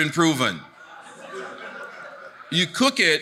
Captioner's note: audience laughing